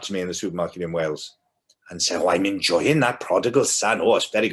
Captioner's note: strong welsh accent